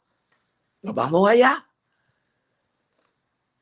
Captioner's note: foreign language